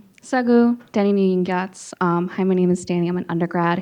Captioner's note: speaking in foreign language